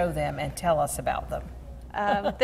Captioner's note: laughing